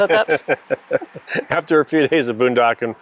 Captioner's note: laughing